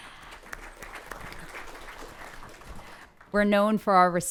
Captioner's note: audience applauds